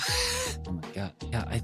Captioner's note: laughs